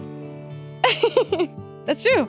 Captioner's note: laughs